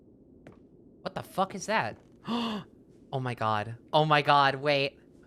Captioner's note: gasps